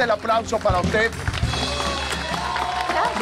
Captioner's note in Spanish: Aplausos